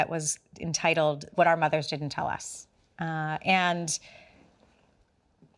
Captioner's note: none